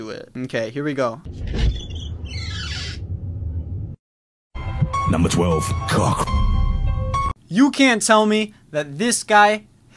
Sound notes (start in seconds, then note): 1.2 door creaking; 1.6 eerie music